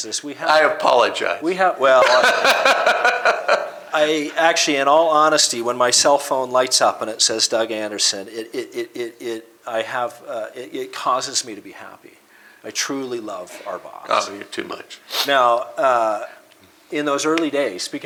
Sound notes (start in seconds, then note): 2.0 laughter